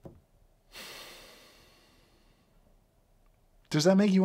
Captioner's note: sighs